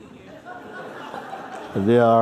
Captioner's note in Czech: Smích